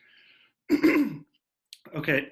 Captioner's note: coughs